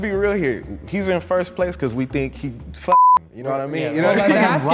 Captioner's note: beep